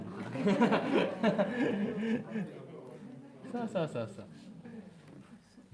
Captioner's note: 笑い